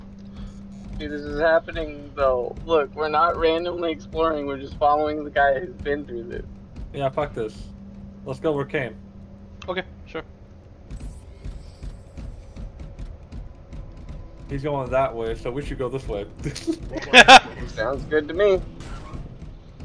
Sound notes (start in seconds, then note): 16.4 laughs